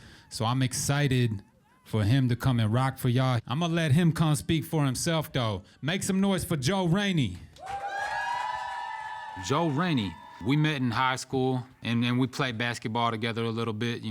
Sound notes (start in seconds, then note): 7.6 audience cheers